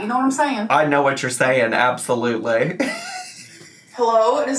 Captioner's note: laughs